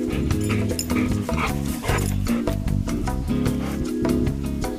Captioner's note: dog panting